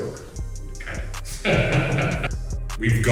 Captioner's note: laughs